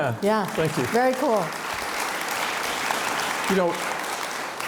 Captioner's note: audience applauds